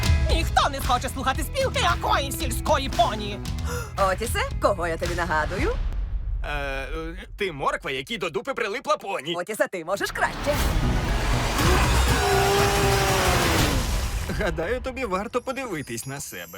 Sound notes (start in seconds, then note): 3.6 Thelma gasps